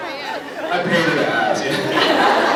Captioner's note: scattered laughs; laughs